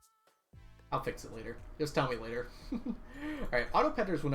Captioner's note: laughs